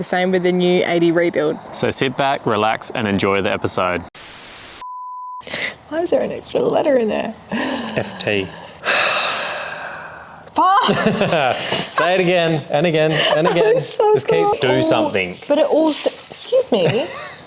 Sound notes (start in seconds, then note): 7.4 sighs; 10.6 laughs